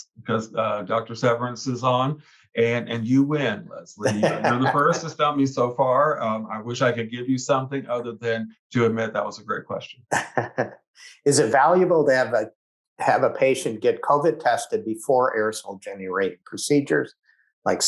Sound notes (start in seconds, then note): 10.1 laughs